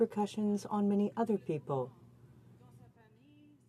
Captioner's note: speaking French